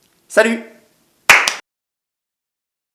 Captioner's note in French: Clap Clap